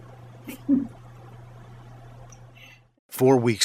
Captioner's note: laughs